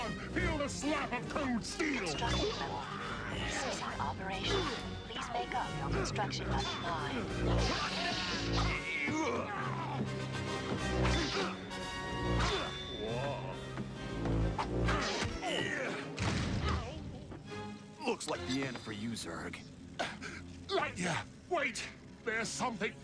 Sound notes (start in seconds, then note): 8.6 grunting